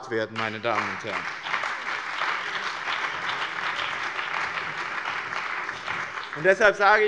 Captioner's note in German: Beifall bei dem BÜNDNIS 90/DIE GRÜNEN und der CDU sowie bei Abgeordneten der SPD